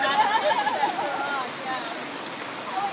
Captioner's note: laughs